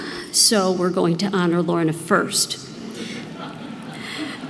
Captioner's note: laugh